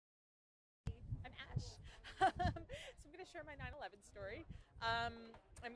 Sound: laughs

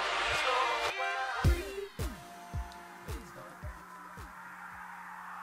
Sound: TV game noises

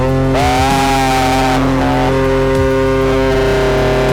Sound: cheer

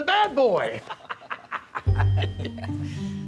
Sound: laughs

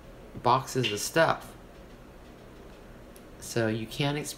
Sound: none

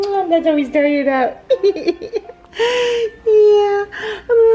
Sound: kissing; laughing

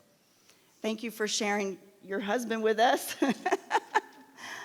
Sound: laughs

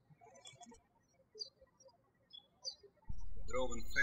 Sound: birds chirping

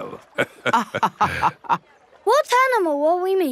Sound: both laughing

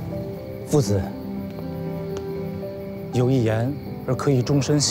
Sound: gentle music; speaking Chinese

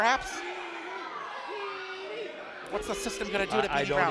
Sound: crowd

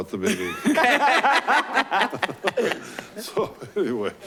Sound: laughing

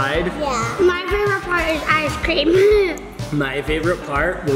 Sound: laughs

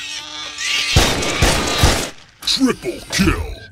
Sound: gunfire

